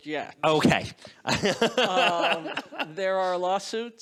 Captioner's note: laughing